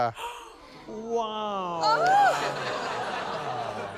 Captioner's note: gasps; exclaims